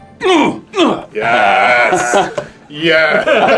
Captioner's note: grunting sounds